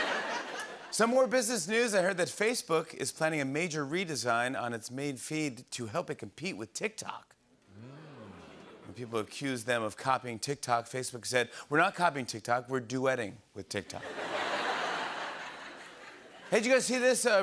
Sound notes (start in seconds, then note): 7.8 audience oohs; 14.0 laughter